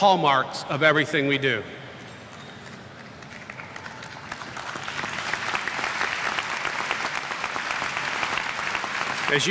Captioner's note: applause